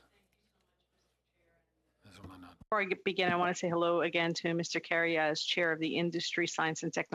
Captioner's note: speaking French